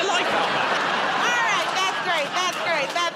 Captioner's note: laughter